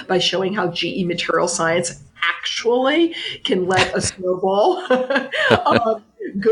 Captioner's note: laughs